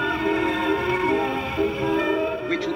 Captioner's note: sound Of Horn